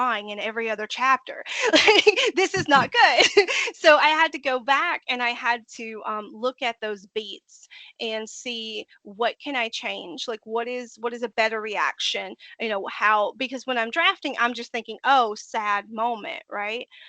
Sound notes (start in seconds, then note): 2.4 laughing